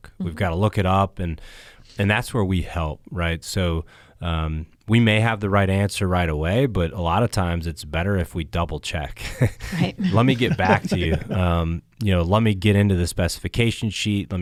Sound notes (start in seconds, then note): 9.3 panelists laughs